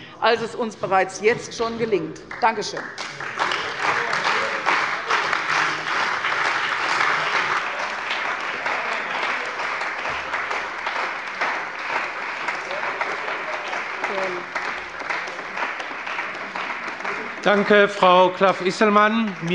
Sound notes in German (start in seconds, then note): 3.7 Anhaltender Beifall bei der CDU und dem BÜNDNIS 90/DIE GRÜNEN